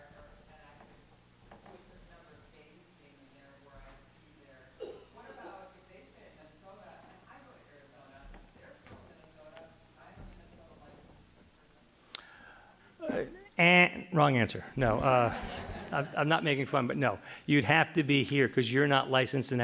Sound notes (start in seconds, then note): 13.7 imitates buzzer